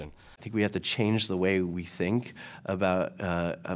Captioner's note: voiceover